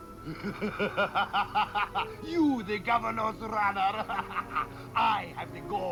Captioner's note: laughing